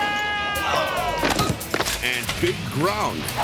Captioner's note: biker screams; bike thuds; bike groans